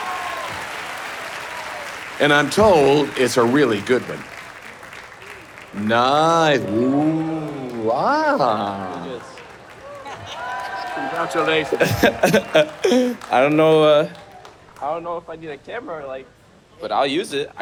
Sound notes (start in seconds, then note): 0.2 audience applauding; 8.5 audience cheering